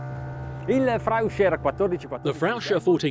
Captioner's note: speaking foreign language